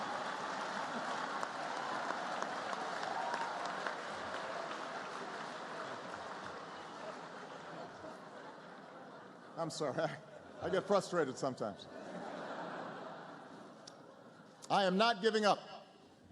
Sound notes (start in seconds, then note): 0.0 laughter; 0.0 laughter, applause